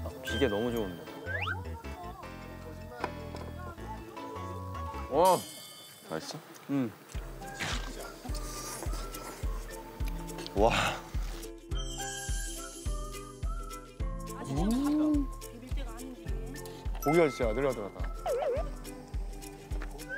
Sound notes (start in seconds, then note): 7.5 munching away